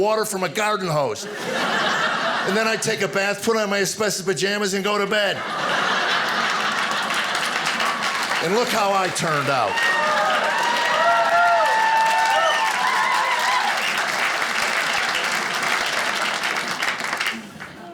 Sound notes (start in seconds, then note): 5.7 audience applauding; 9.9 audience cheering